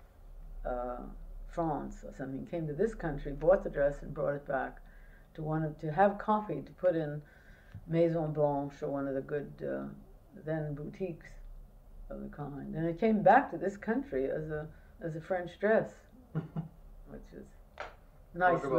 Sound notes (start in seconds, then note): 16.3 laughter